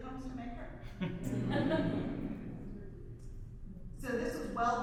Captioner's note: audience laughs